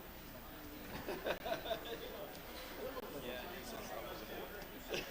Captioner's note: participants laughing